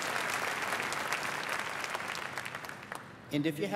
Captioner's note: applause